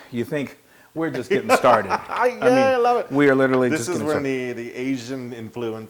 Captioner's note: laugh